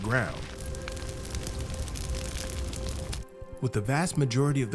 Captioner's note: fire cracking